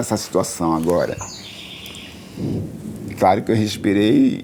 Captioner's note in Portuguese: pássaros chilreando